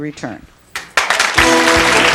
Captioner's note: audience clapping; holiday music